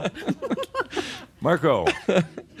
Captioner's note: they giggle